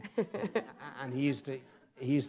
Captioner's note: audience laughs